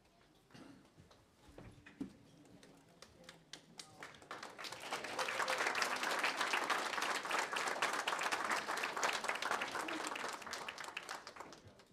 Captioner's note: applause